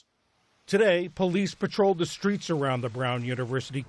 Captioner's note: voice-over